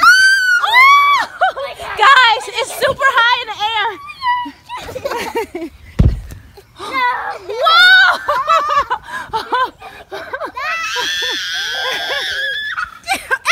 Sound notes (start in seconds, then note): 0.0 screaming; 5.1 laughing; 6.0 balloon thuds; 7.9 laughs; 10.7 shrieking